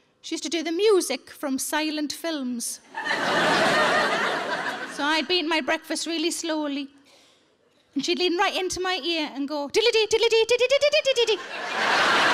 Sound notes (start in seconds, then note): 2.9 audience laughing